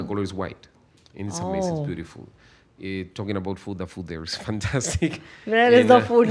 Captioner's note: laughs